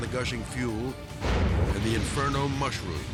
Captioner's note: fire exploding